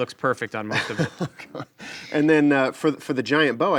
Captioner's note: laughs